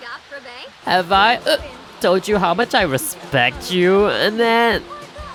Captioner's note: hick